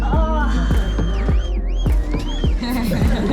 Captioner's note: whistling and cheering in distance; laughing